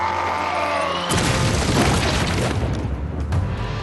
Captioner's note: crash